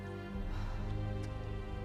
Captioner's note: sigh